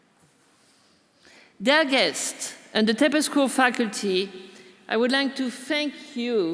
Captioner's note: none